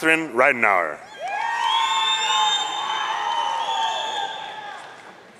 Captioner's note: audience cheering